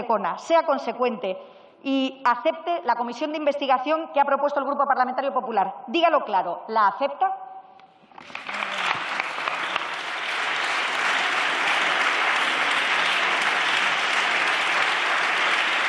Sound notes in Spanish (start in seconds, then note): 12.7 Aplausos